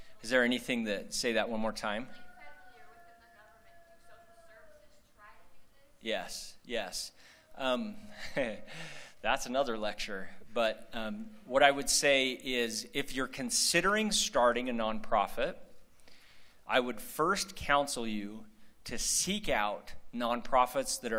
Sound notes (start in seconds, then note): 8.1 laughter